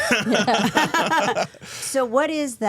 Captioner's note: all laughing